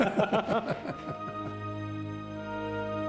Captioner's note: laughter